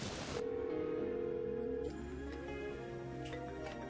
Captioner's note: cellphone ringing